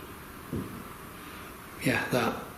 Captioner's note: thud